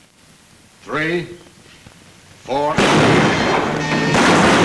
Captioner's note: gun bangs; guns bang